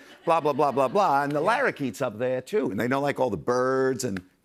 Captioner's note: normal voice